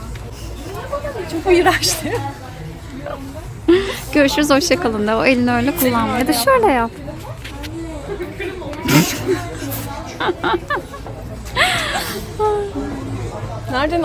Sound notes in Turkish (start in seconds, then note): 8.9 gülüşmeler